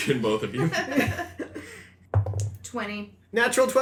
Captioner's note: dicer roll